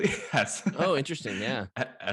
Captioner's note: laughing